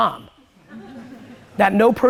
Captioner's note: audience laughs